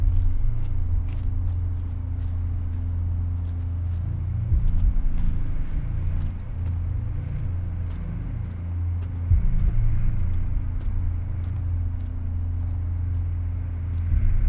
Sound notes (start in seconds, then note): 6.6 feet walking; 6.6 insects chirping